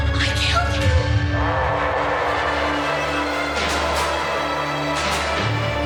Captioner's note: creature shrieks; tense and menacing orchestral music